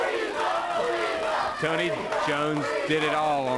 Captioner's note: crowd cheering